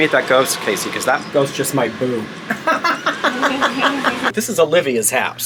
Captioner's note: laughs